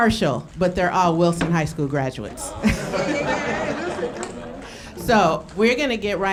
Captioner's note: laughing